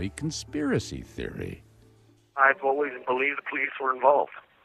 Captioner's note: on phone